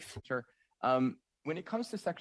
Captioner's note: speaking French